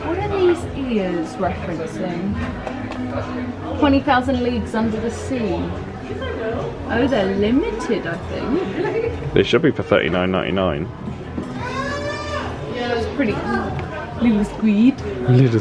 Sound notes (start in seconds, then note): 11.5 guest squealing